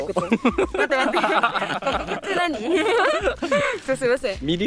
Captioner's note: laughs